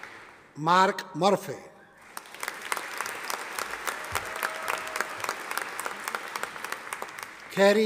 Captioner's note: audience applauding